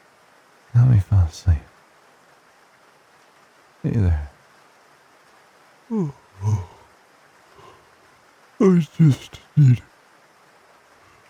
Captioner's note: yawn